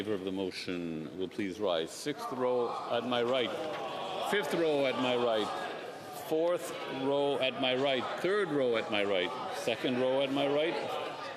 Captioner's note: calling of recorded vote